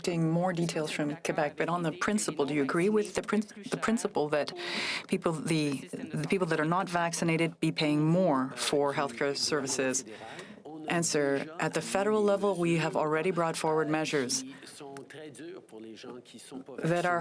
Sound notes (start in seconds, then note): 3.9 speaking French